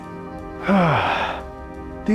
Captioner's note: sighs in Mafia